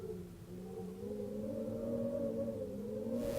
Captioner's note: wind howls violently